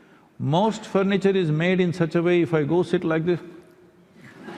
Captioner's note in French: rires